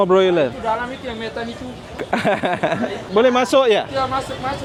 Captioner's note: laugh